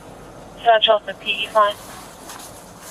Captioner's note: radio chatter